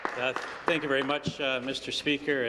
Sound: applause

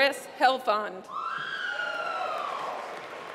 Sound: applause

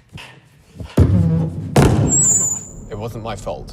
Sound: loud microphone feedback

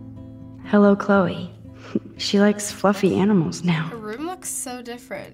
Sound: chuckles

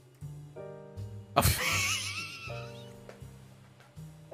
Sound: laughs

